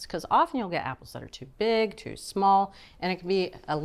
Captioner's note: none